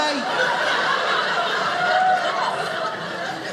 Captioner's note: audience laughing